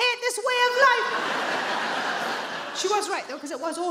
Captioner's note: audience laughs